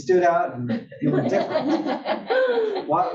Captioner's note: laugh